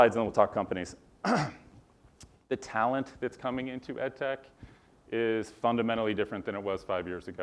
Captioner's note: cough